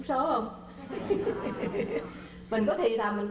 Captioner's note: laugh